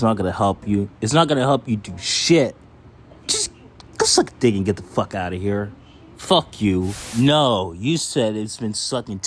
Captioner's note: static cut